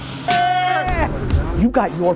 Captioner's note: energetic bass music; cheering; energetic bass music